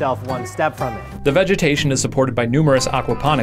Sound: voiceover

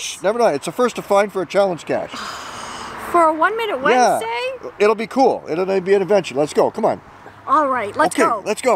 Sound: sigh

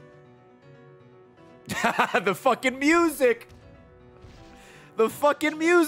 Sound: laughs

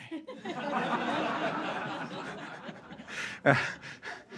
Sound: all laughing

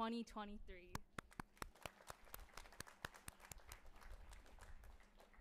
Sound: audience applauding

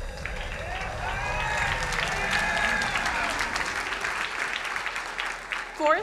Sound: crowd cheering and applauding

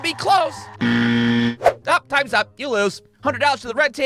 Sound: horn sound

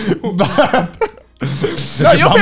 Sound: men laughing

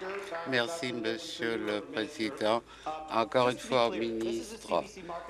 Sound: applause

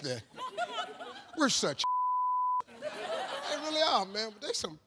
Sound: beep

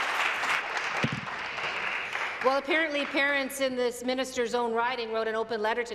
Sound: applause

